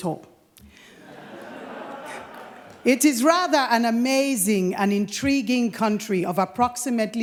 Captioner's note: laughter